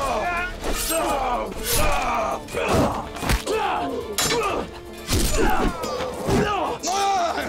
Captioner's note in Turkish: Dövüş sesleri